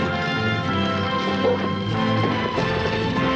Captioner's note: jack barks